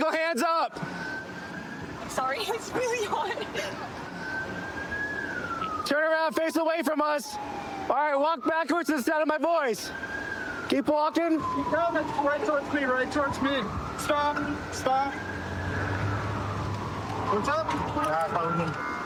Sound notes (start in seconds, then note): 3.6 siren wailing